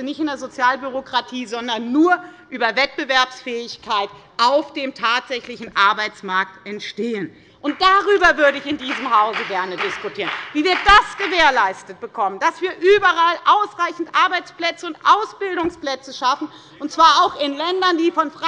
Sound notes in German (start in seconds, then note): 5.9 Beifall bei der FDP